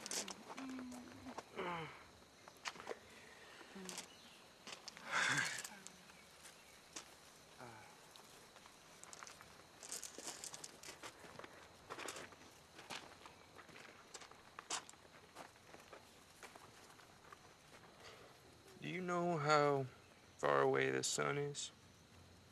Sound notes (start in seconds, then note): 1.6 nate grunts; 5.0 exhales